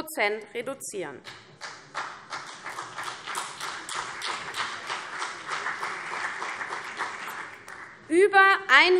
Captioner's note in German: Beifall CDU und BÜNDNIS 90/DIE GRÜNEN